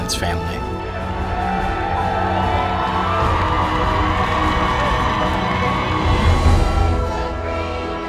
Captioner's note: cheering